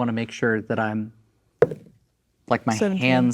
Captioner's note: dice rolling